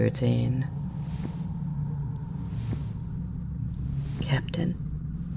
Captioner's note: quiet, slow thumping